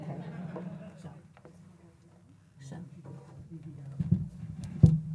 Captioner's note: audience laughing